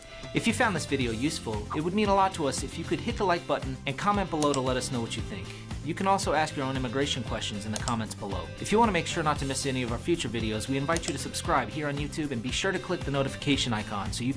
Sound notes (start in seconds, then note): 0.3 upbeat music; 4.3 computer clicks; 7.7 computer clicks; 10.9 computer clicks